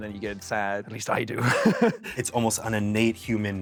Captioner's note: laughs